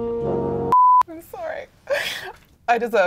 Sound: beep

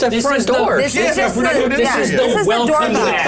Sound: all murmuring

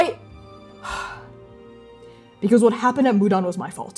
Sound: sighing

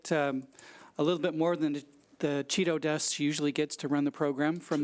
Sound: speaks quickly

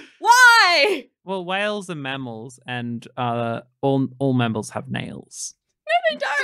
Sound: laughing

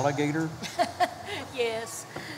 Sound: chuckles

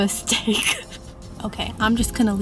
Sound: laughs

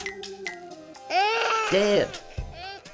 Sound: baby Crying

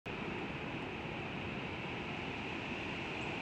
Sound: ambient nature sounds

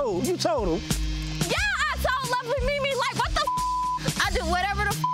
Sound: beep

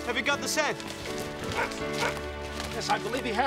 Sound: dog barking

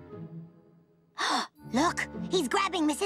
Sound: gasp

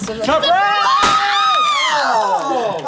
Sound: screams; water dripping

